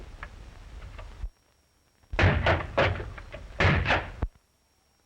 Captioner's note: banging on door